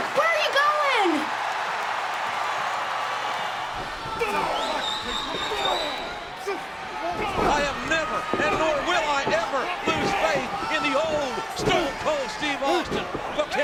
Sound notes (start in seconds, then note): 1.5 audience cheering; 4.4 wrestlers grunting